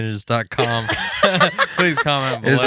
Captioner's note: laughing